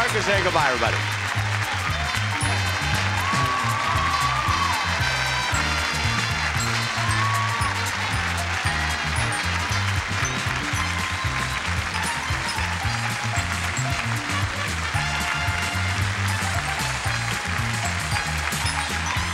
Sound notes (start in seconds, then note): 3.6 audience cheering and applauding; 3.6 upbeat music